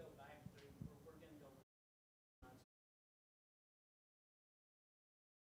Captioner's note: speaking faintly